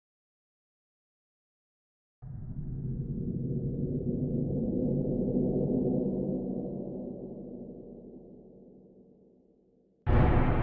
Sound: sound of horror pack

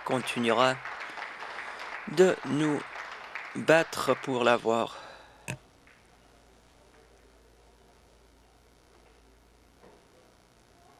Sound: some Applause

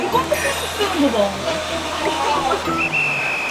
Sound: tears

